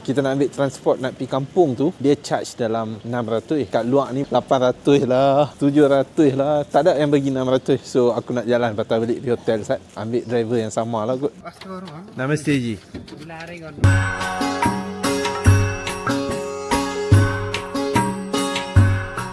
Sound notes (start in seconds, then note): 11.6 speaking Nepali